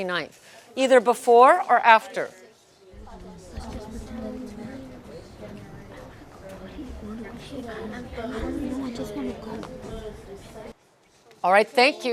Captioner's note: students murmuring